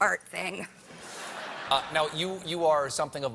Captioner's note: laughter